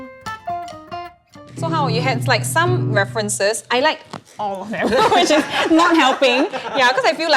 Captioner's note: both laugh